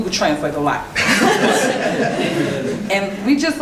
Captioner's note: laughing